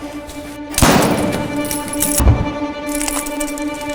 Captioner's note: gunshot